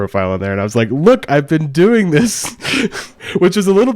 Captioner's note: laughs